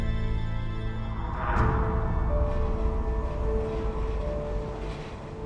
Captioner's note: tense music; train rumbling